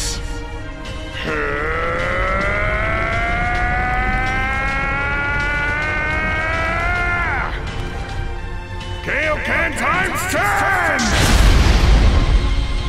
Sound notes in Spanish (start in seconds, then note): 1.2 Gritos